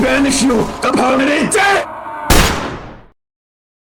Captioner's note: In TF2's voicechat